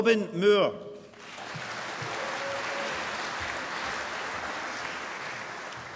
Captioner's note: applause